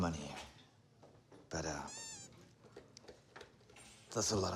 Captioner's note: toy squeaks